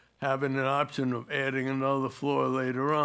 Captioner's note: none